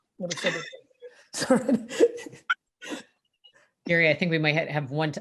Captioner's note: laughing